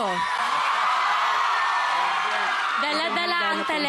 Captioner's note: crowd screaming, applauding